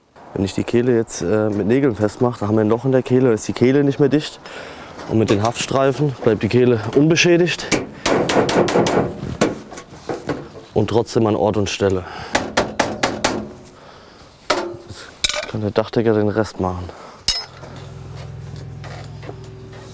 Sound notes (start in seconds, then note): 17.2 distant humming